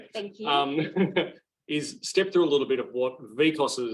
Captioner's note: laughs